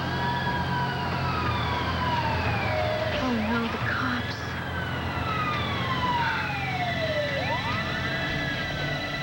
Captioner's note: siren